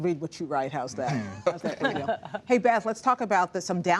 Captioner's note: laughter